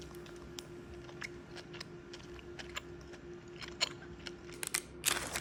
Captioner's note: crunch crunch ASMR